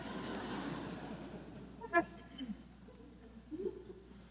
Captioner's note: audience laughs